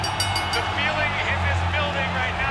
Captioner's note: bell ringing